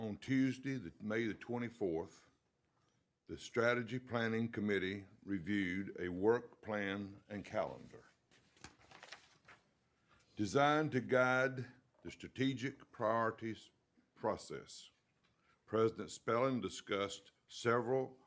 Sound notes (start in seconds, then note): none